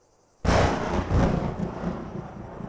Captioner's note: loud thunder